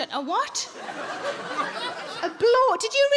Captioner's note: audience laughs